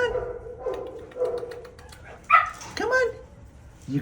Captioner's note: tongue clicks